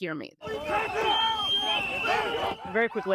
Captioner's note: shouting